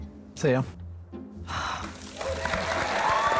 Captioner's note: sighs; applause